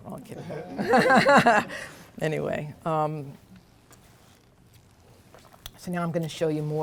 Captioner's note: laughs